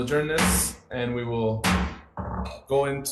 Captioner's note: gavel pounding